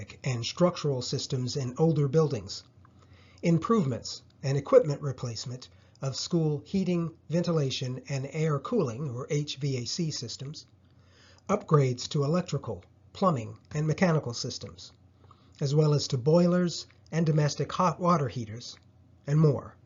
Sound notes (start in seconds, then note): 9.7 hvac